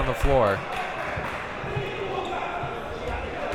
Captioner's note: clapping